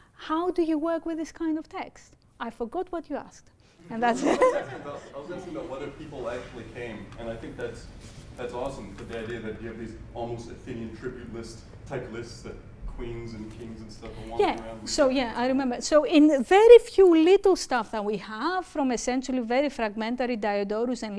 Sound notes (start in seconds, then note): 4.0 laughter